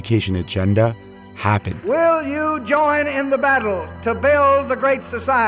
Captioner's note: soundbite of archived recording